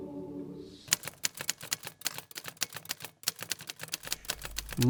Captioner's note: typewriter keys